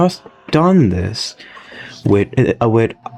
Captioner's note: inhales Oxygen